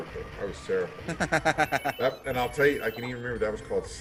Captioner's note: laugh